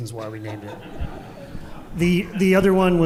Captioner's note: audience laughing softly